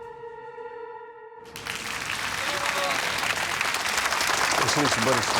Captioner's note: crowd applauds